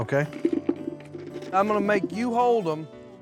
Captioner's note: soft thuds